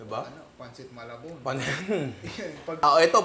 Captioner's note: laughs